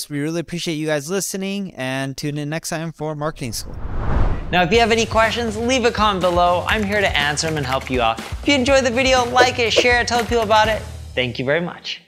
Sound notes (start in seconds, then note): 3.2 transition whooshing